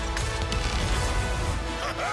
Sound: yelling

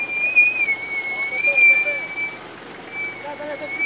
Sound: indistinct chattering

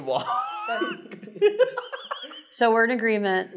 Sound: amused golgari player noises

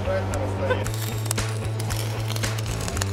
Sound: laughing; welding noise; upbeat music

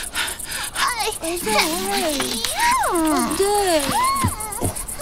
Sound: man panting; children cooing

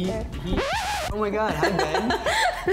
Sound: record scratch; laughing

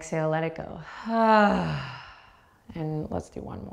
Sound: sighing exhaling

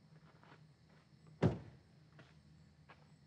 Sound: car door opening

